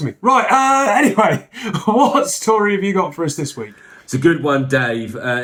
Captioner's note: laughs